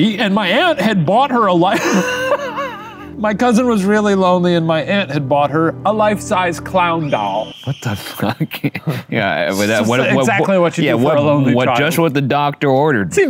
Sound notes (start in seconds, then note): 1.7 laughs; 7.0 screaming; 7.7 laughs